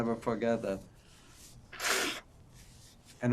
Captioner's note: wiping nose